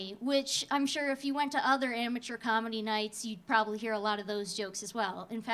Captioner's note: none